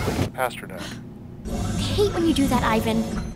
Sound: gasp

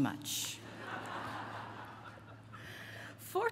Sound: laughter

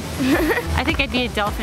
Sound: laughing

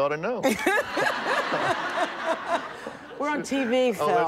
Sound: all laughing

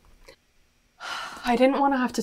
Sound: sighs

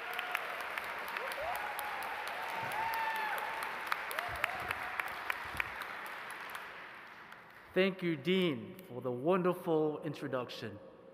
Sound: applause

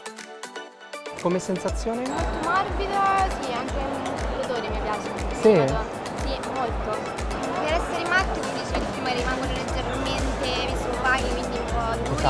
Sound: speaking italian

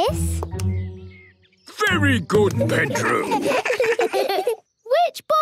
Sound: children giggle

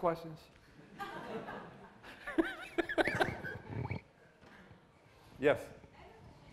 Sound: laughter

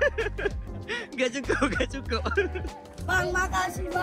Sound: laugh

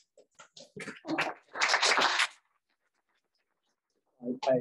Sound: applause

